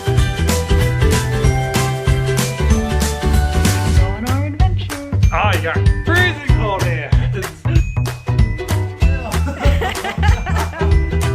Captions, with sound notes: Going on an adventure. - Ah, you have freezing cold hands! (laughter)